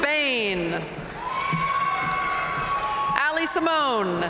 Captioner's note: audience cheering and applauding